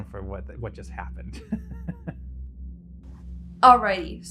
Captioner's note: chuckles